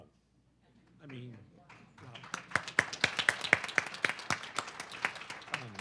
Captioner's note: audience clapping